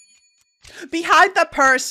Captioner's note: shop ambience begins: ticking, whirring, and occasional dings